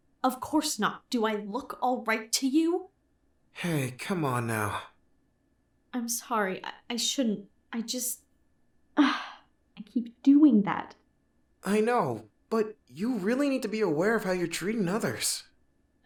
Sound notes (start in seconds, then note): 8.8 sigh